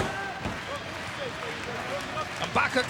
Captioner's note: audience applauding